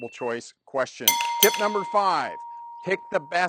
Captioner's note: bell rings